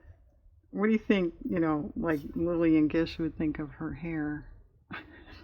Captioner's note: laughs